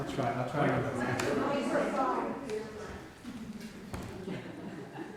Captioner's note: crowd chattering